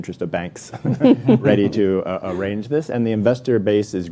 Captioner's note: all laughing